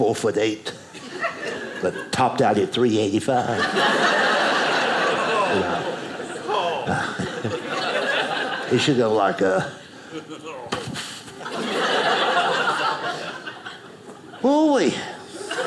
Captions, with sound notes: like four foot eight, (audience laughing) but topped out at 385. (audience laughing) It should go like . . . (audience laughing) Ooh wee.